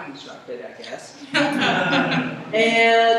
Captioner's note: laughter